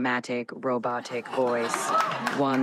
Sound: laughter; applause

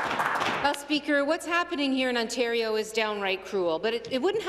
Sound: some Applause

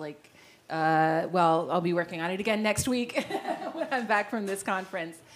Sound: laugh

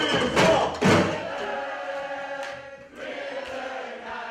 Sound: crowd chanting

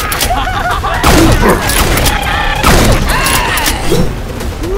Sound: clowns Making Sounds

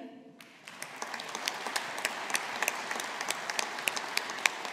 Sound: audience applauding

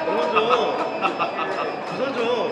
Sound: laughing

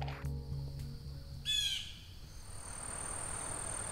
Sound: wilderness sounds

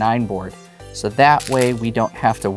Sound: stones clattering

